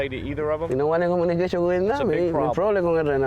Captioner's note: speaking spanish